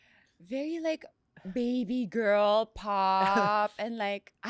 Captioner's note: laughs